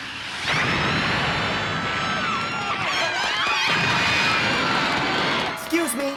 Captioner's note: explosion and screams